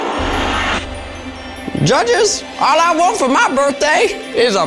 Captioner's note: dramatic music; in puppet voice